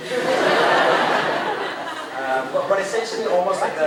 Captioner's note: crowd laughing